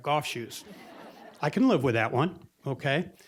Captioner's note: audience laughing